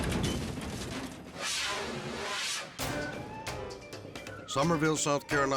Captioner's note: air whooshes